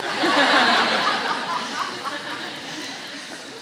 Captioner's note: laughter